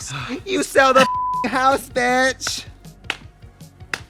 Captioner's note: beep